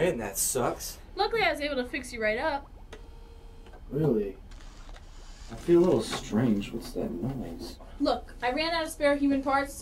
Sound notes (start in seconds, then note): 4.4 electric whirring